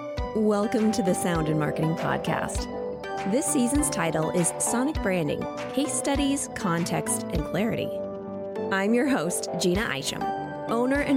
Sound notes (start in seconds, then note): none